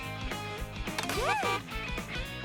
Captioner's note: car sounds